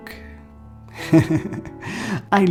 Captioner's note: laughter